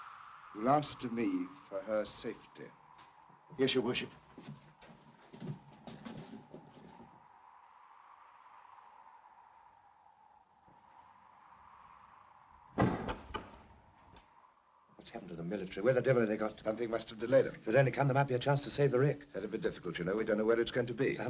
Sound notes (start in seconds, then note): 12.8 door is bolted